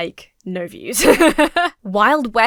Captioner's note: laughs